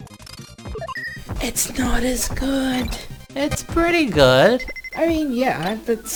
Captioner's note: yell-whispering